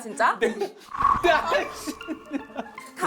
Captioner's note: bald reveal sound effect